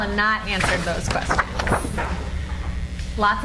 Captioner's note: cards flutter